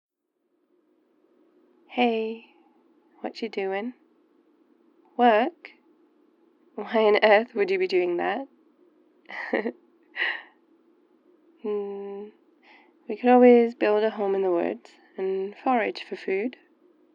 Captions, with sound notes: *phonecall* hey, watchu doin? work!? why on Earth would you be doing that? *laughs* hmm... we could always build a home in the woods and forage for food